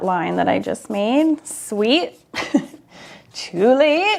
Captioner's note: laughs